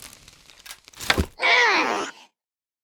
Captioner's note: tiny toy viking noises